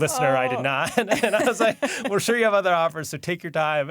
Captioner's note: laughs